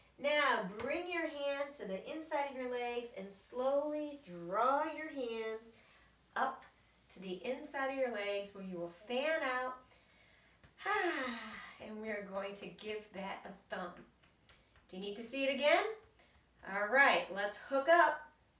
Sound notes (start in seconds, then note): 10.8 sighs